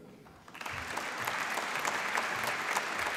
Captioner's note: applause